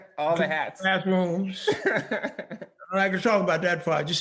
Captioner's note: laughing; laughing